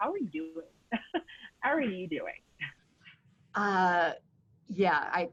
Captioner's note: laughing